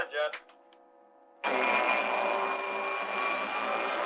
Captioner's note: whirring